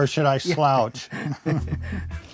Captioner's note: both laughing